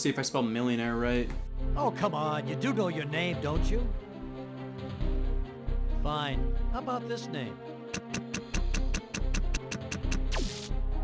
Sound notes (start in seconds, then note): 4.6 dramatic music; 7.9 typing